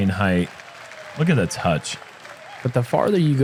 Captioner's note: applause